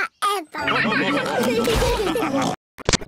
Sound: all laugh

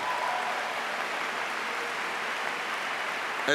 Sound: applause

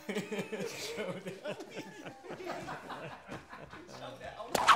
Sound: laughing

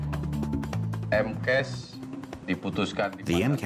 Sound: speaking indonesian

